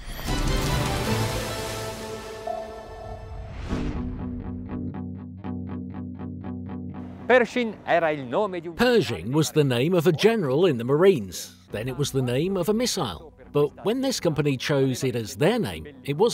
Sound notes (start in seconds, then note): 0.0 intro music; 7.3 speaking foreign language